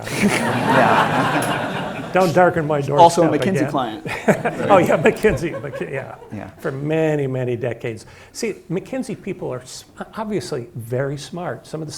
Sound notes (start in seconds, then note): 0.0 audience laughing; 2.8 laughs